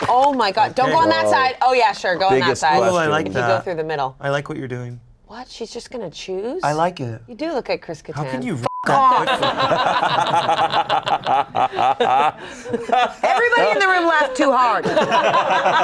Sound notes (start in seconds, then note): 8.6 beep; 11.9 everyone laughs; 14.8 everyone continues laughing